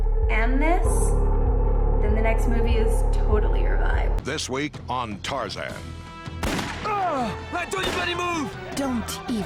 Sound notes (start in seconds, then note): 6.0 epic music; 6.4 gun firing